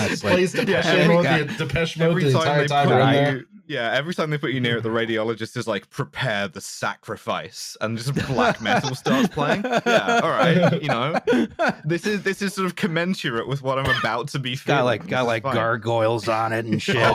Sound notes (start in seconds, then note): 0.0 laughs; 8.1 laughter